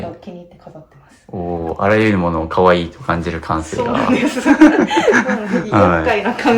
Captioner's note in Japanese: 笑い